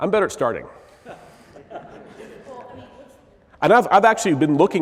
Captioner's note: laughing